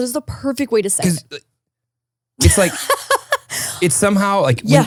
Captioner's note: laughs